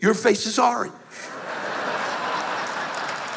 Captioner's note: laughter